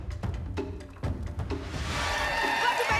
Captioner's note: whoosh